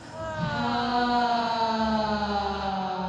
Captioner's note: all sigh